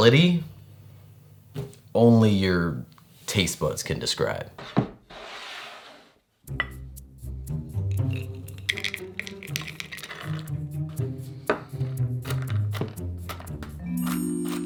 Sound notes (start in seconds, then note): 5.0 board sliding; 7.9 pecans dropping; 12.4 knife chopping